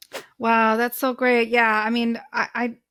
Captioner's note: whooshing sound